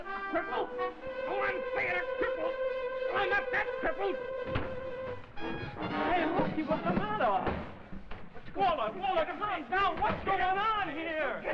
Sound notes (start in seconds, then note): 6.8 furniture crashing